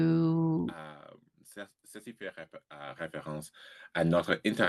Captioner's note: speaking french